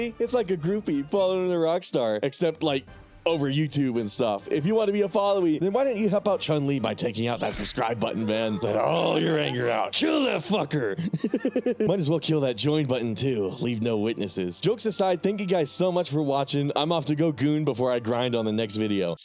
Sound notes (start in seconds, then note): 11.1 laughing